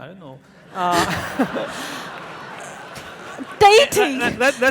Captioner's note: audience laughing